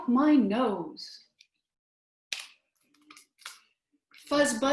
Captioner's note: silence